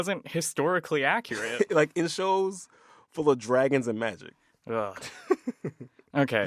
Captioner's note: laughter